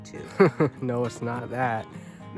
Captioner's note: laughter